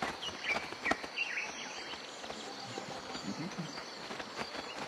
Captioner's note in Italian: cinguettii